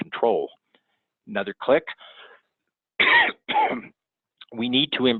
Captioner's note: coughs